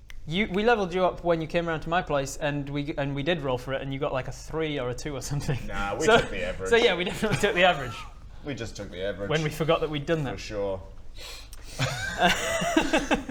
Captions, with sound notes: you, we levelled you up when you came round to my place and we did roll for it and you got like a 3 or a 2 or something nah, we took the average So yeah, we definitely took the average we just took the average when we forgot that we'd done that for sure *sniff* *laughs*